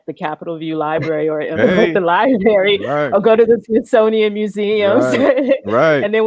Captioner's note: laughs